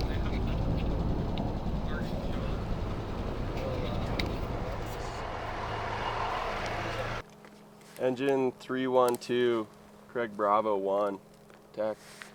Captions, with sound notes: (motor humming) - Engine 312, Craig-Bravo-One, tech.